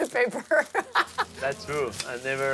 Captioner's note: laughing